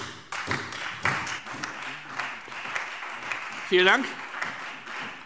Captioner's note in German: Beifall Freie Demokraten und vereinzelt SPD